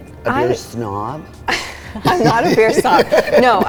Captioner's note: both laugh